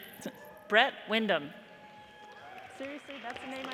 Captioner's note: audience cheers and applauds